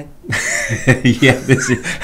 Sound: laughing

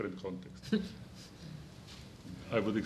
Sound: chuckling

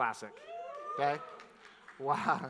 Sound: scattered cheers

